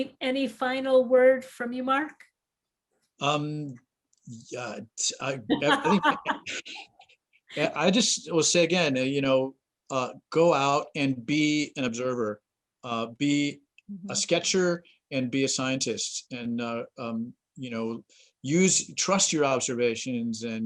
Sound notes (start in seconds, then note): 5.4 laughs